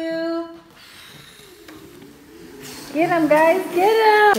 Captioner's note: blowing